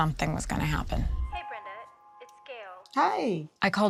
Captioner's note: on phone